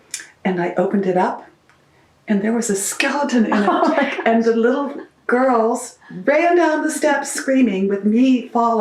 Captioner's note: laughter